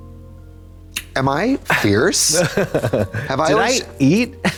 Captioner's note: Katya chuckles